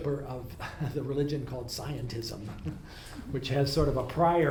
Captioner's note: laughs